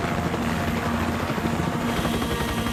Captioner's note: helicopter whirring